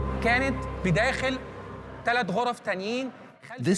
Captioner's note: Arabic dubbed in English